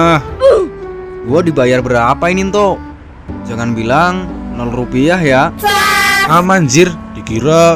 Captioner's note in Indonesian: berteriak; berteriak